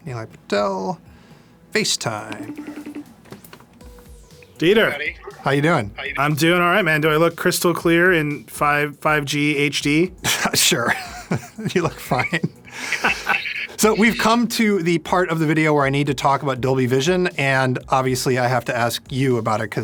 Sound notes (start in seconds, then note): 2.2 phone beeping; 10.8 laughs